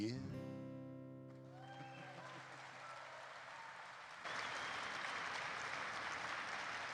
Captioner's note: audience cheers